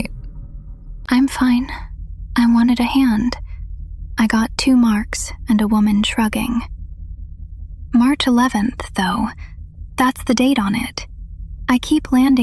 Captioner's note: breath